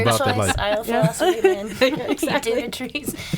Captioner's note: laughing